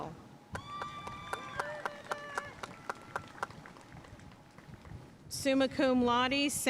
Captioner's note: audience cheering and applauding